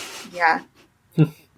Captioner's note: laughs